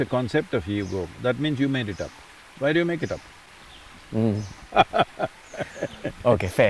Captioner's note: laughs